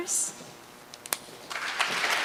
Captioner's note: applause